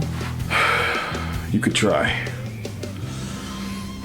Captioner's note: sigh